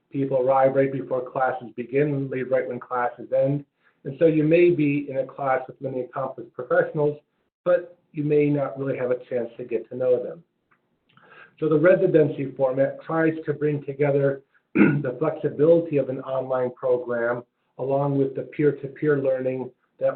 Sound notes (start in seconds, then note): 14.7 cough